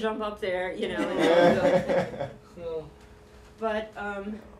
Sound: laughter

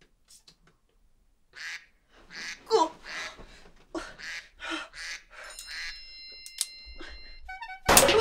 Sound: duck quacking; gun shot

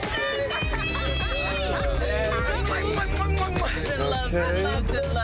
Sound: laughing

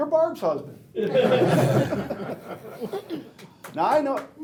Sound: laughing; clapping

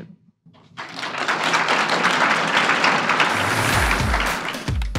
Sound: audience applause

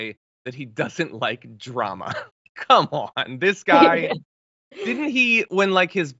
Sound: laugh

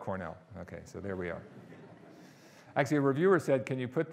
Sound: audience laughing

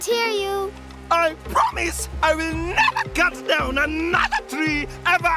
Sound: yelling

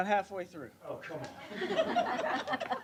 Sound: laughter

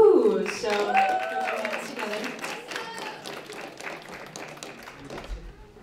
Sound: applause

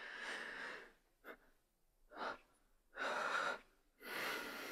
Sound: Sarah breathes heavily

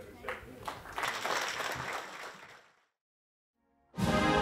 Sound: audience applauding; dramatic orchestral music

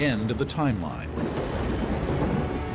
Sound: thunder

